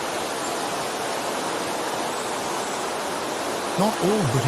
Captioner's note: birds chirping